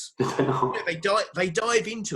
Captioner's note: laughs